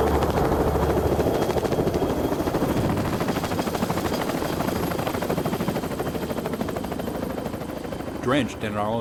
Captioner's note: sound of helicopter rotors